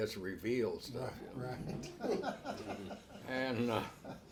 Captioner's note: laughs